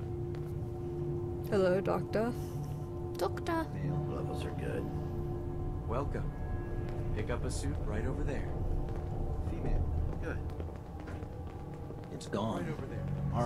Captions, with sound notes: Hello? Doctor? *Horrible English accent* Doctor?